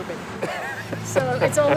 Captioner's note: laughs